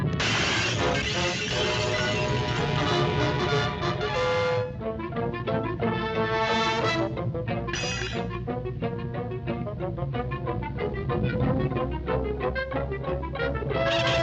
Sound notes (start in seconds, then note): 0.2 glass shatters; 4.9 suspenseful music; 7.7 metal clinks